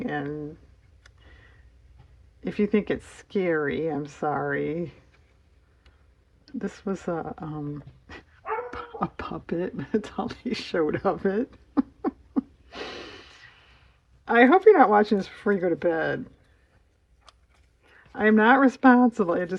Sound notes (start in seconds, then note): 11.4 laughs